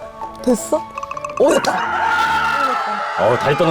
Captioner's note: shaking